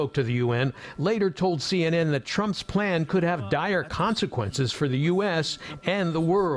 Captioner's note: speaking in french